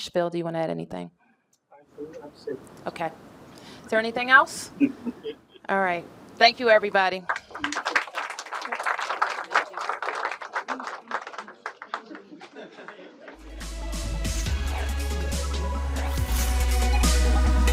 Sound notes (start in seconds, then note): 10.7 applause